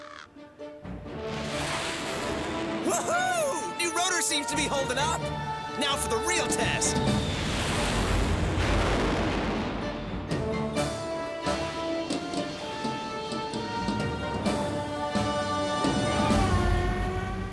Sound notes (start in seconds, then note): 1.2 jet whooshes past; 8.3 jet rumbles